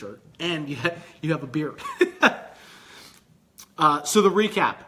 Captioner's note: laughing